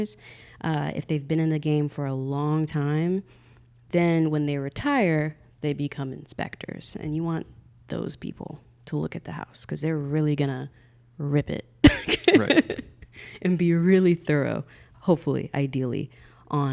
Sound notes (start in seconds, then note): 11.8 laughing